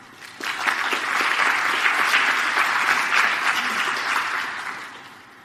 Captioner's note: audience applauding